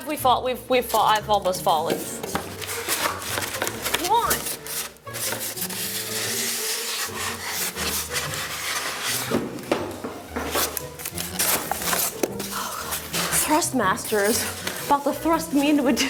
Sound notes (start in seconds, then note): 5.4 styrofoam scrapes; 9.1 box clatters; 10.2 styrofoam rustles; 12.6 whispers; 13.1 styrofoam rustles